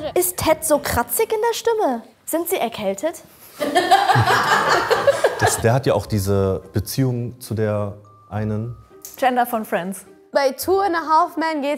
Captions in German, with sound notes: Ist Ted so kratzig in der Stimme? Sind Sie erkältet? (Lachen) Der hat ja auch diese Beziehung zu der einen. Chandler von "Friends". Bei "Two and a Half Men"